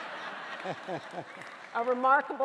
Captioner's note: audience laughing